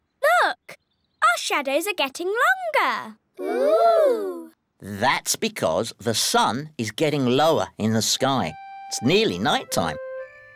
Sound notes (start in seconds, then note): none